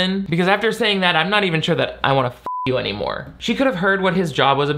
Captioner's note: beep